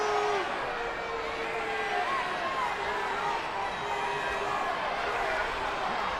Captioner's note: audience booing and shouting